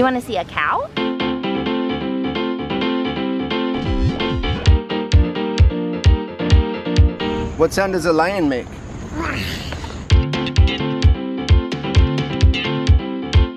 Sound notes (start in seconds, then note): 0.9 upbeat piano music; 9.3 roars; 10.1 upbeat piano music